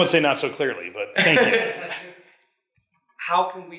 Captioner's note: man laughs